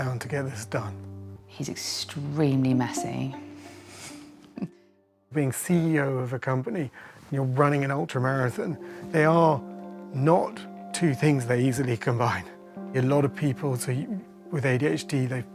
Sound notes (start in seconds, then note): 4.5 laughs